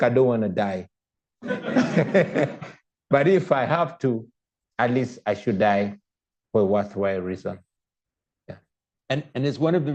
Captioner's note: laughter